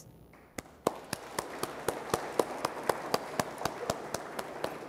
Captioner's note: audience applauds